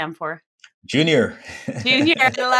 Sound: laughs

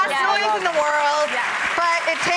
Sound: audience applauding

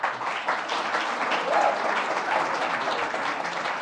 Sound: applause

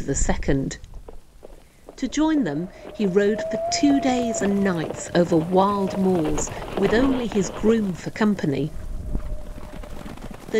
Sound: hoof beats, wind

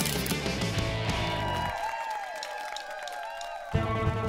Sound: crowd cheering

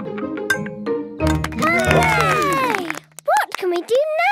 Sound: all cheer

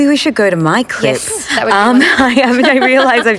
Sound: laughter

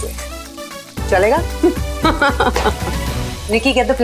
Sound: giggling

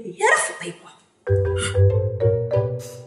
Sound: huffs; upbeat piano music

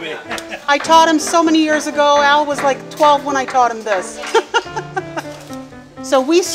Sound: laughs; laughs

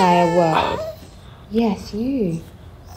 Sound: dog whining

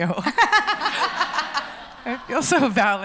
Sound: laughs

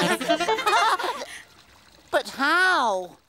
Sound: water runs

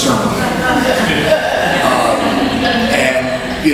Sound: audience laughs

